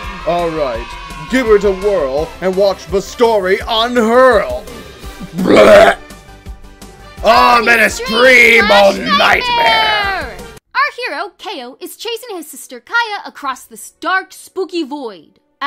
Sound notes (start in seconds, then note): 0.0 enthusiastic cheers; 5.1 Seerius vomits